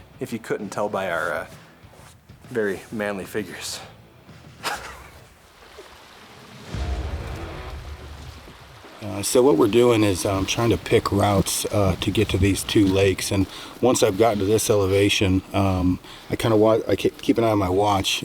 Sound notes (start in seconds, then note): 4.6 chuckles; 5.8 water flowing